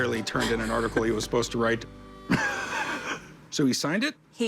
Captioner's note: laughs